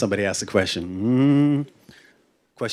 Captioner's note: hums